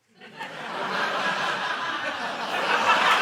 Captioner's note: laughter